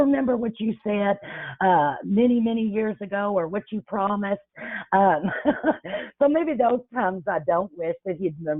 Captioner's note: chuckles